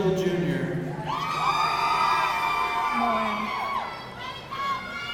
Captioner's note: audience cheering